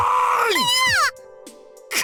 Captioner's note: panicked cry